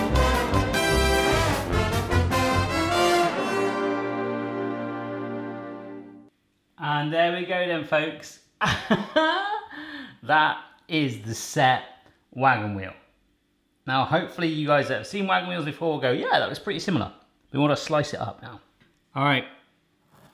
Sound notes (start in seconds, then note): 8.8 laugh